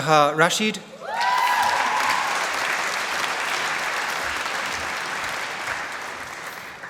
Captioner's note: applause